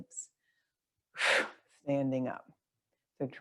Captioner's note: exhales loudly